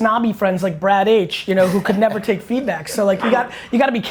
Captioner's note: laughs